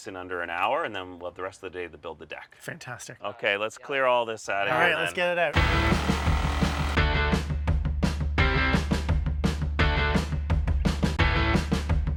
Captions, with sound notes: in under and hour and then we'll have the rest of the day to build the deck. - Fantastic - Okay, let's clear all this outta here. - All right, let's get it out. (upbeat music) (saw whirring)